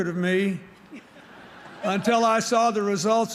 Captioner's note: laughter